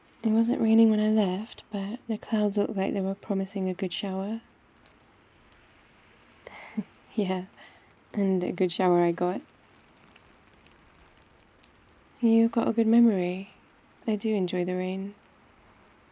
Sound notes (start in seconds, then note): 6.4 laughs